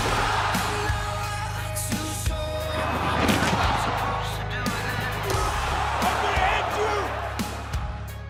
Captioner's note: crowd cheering